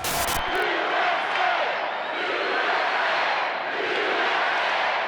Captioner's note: crowd chants "USA"